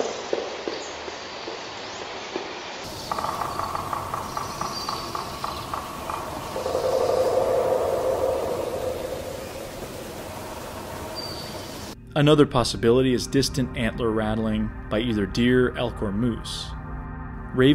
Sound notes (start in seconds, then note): 2.8 woodpecker drumming